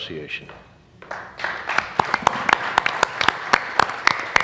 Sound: applause

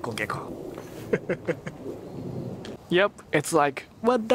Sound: chuckles

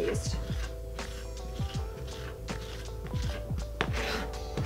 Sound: knife scraping

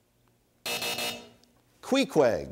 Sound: buzzer sounds

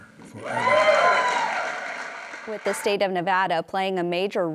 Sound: cheers and applause

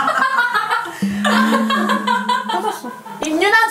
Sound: laughter in the middle of the night?

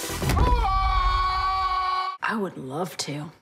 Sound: screams

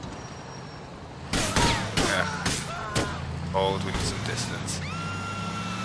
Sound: gunshots

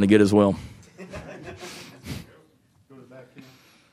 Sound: people laughing

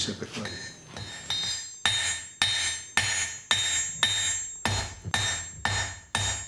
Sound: sound of hammering tool pounding hot wrought iron is amplified

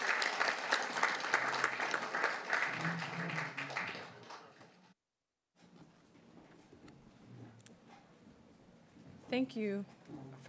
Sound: applause

